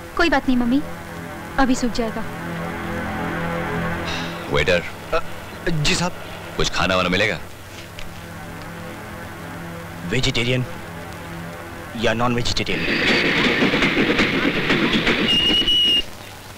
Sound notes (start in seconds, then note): 15.0 brakes squeal